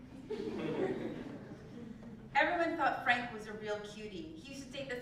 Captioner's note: laugh